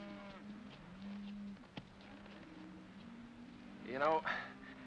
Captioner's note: cattle moo